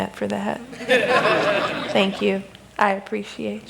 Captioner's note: laughter